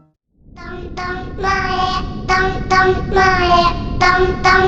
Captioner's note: sound of Japanese kindergarten drill